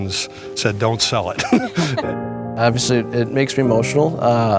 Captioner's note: laughs